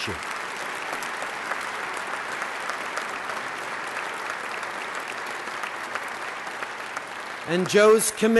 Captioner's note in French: Applaudissements